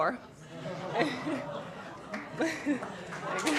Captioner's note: laughter; applause